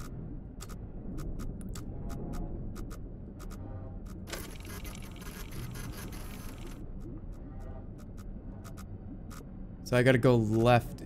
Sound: machine whirring

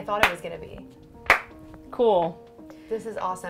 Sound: claps hands

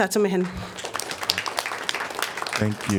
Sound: applause

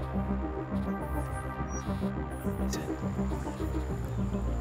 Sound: Rogers whispers

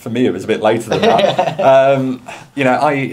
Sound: laughs

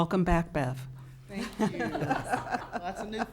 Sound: laughing

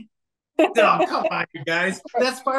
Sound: faintly speaking

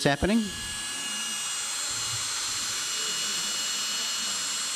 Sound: drill whirring

